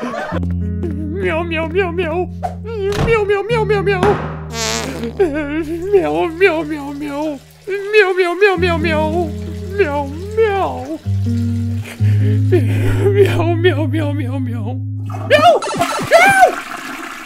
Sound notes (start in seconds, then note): 3.1 crys; 7.6 sobs; 9.6 sobs more; 11.9 sobs & crys; 15.1 toilet flushes